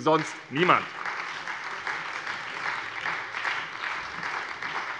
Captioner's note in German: Beifall bei der SPD